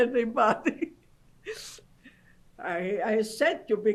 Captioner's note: laughs